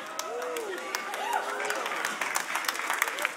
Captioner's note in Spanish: Aplausos